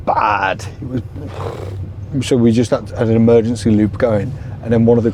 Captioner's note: scoffs